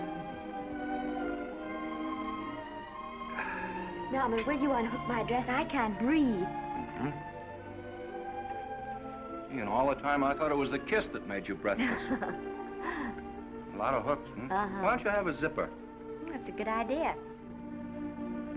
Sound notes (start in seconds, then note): 0.0 chuckles; 0.3 gentle music; 3.3 Norman sighs; 11.8 Esther laughs